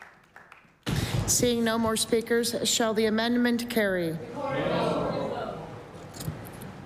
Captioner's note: applause